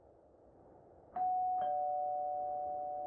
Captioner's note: doorbell